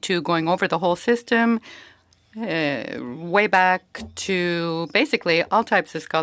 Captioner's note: speaking French